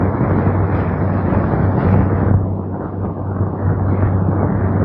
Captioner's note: thunder